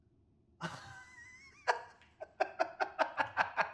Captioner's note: laughter